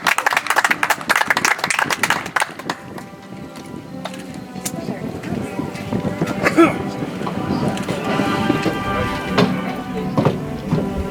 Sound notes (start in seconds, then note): 2.6 audience applauds; 6.8 soft music